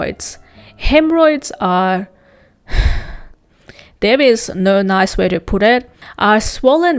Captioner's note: sigh